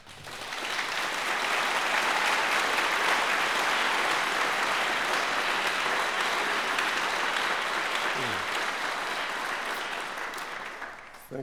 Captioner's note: applause